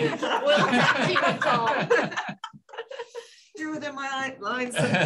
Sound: laughter

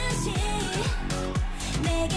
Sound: fanchant

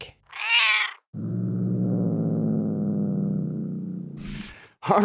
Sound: cat growling

